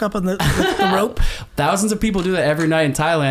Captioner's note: laughs